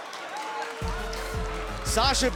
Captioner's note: cheers & boos